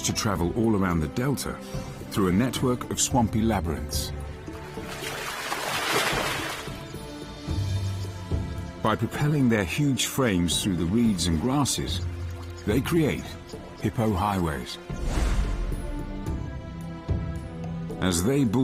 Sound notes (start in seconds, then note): 2.9 dramatic music; 2.9 river waves crushing; 12.9 dramatic music